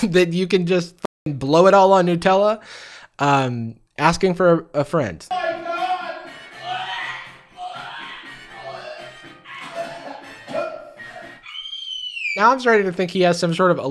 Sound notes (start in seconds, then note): 6.7 gagging noises; 10.4 high pitch scream